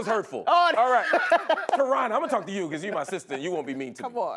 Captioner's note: laughter